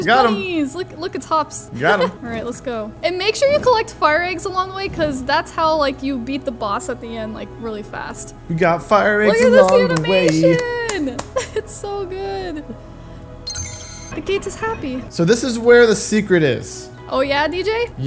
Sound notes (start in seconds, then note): 11.9 clapping